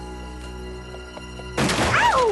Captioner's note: crash